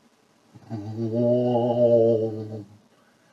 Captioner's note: haunting sound